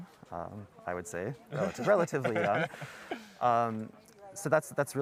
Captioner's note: laughter